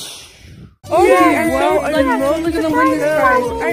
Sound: everyone cheering

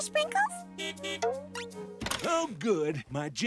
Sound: horn honking

